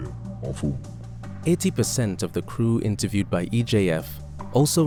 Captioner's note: voiceover